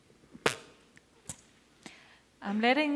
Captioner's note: makes fart noise with mouth